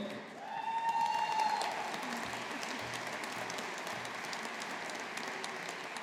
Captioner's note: audience applauding